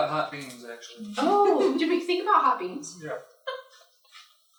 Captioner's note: laughter